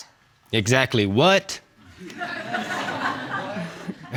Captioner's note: audience laughing